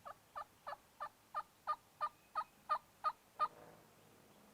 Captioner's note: turkey calls